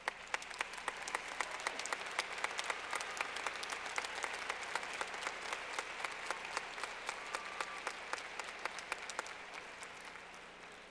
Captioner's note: clapping